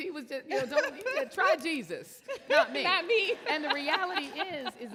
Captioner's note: laughs